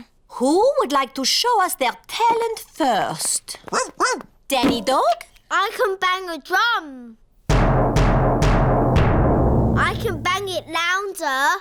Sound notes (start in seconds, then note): 3.3 barks; 7.5 bangs drum loudly